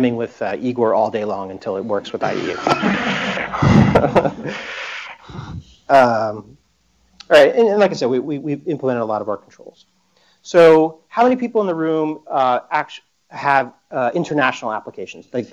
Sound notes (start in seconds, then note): 2.3 laughter